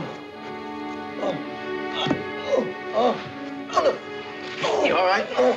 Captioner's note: GROANlNG